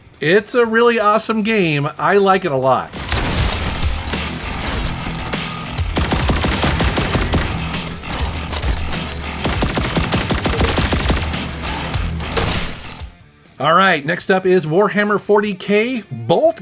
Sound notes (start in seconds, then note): 2.9 guns blasting; 3.0 upbeat heavy rock music